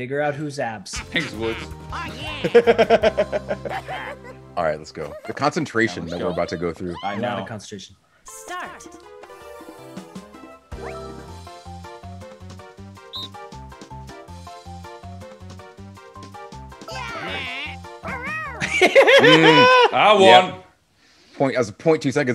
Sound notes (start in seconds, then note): 0.9 laugh; 16.8 laugh